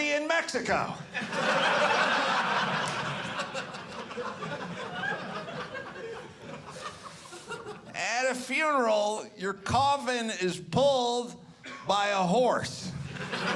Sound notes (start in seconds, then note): 8.0 audience laughing